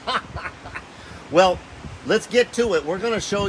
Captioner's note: laughs loudly